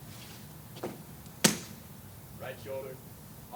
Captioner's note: objects clank